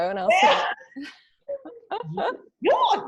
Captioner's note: laughs